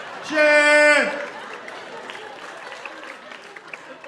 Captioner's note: imitates air horn blowing